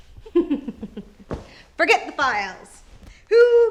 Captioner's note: chuckles